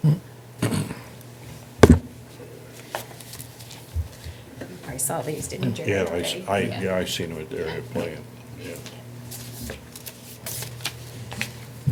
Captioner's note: murmuring over pictures